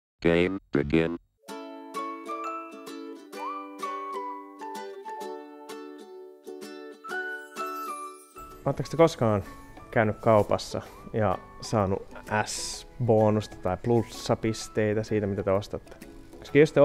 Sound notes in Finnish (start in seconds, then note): 0.2 Robottiääni; 2.1 iloista musiikkia